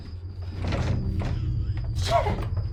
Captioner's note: door rattling